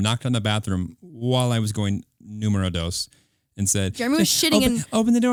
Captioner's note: foreign language